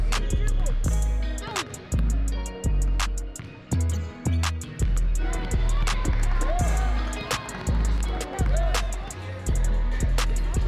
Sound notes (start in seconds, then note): 3.1 sneakers squeaking on the court